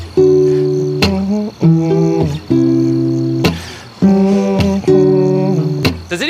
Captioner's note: humming